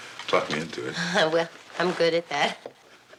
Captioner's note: laughs